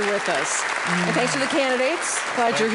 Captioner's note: audience applauds